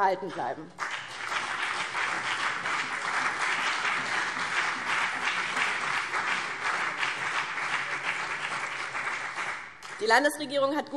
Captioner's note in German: Beifall BÜNDNIS 90/DIE GRÜNEN und CDU